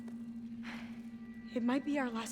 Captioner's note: sigh